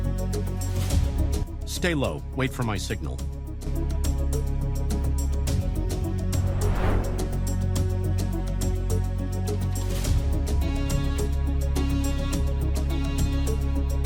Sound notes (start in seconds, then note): 3.2 suspenseful music continues; 6.0 transition whooshing; 7.5 suspenseful music continues